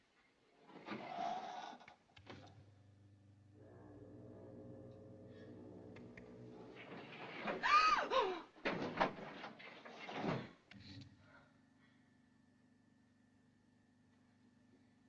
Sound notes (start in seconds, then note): 3.2 foghorn Blows; 4.9 gasps